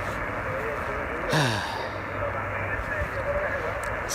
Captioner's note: sigh